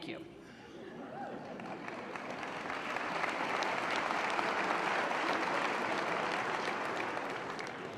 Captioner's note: applause